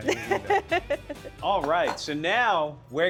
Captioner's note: laughs